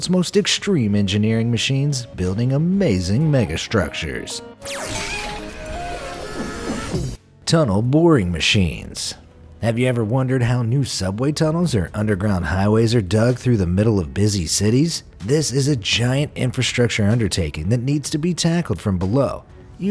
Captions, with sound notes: most extreme engineering machines building amazing megastructures. (upbeat music) (image clanging) (image buzzing) (cartoon yelling) Tunnel Boring Machines. Have you ever wondered how new subway tunnels or underground highways are dug through the middle of busy cities? This is a giant infrastructure undertaking that needs to be tackled from below,